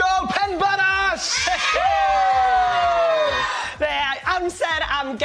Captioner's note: cheering